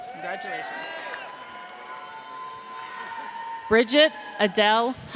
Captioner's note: audience cheers